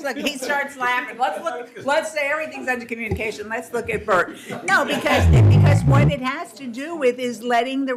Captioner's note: laughter